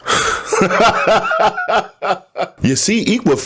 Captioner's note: laughing